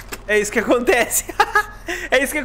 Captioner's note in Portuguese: Risos